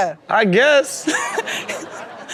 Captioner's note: woman laughs